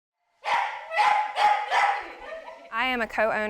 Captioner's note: dog barking